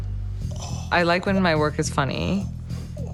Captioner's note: suspenseful jazz music; person exclaims